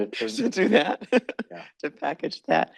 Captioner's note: laughs